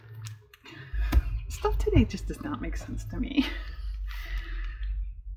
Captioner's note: laughs